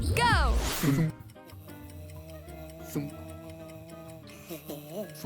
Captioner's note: clock ticking